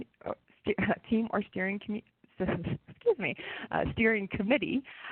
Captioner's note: chuckles